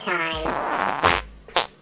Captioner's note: fart sound effect